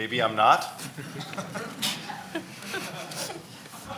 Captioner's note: laughing